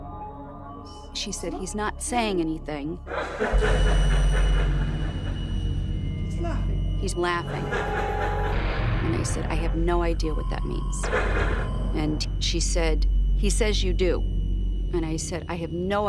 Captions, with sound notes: She said he's not saying anything. [laughing] He's laughing. He's laughing. And I said, I have no idea what that means. And she said, he says you do. And I said, I have no idea what that means.